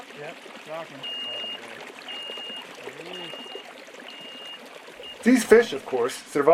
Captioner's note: beeping